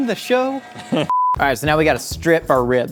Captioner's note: beep